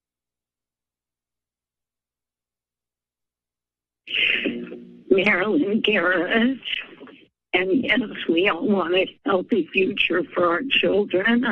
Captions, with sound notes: [static sound] - Marilyn Garett. And yes, we all want a healthy future for our children.